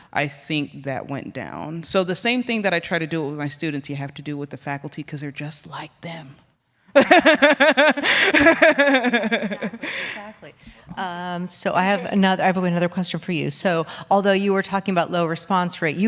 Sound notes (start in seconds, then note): 7.0 laughs